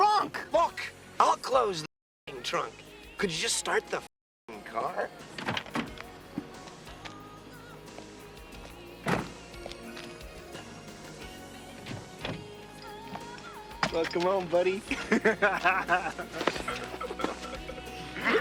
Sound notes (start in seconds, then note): 14.8 laughs